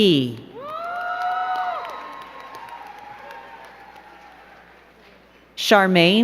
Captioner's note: crowd cheering and clapping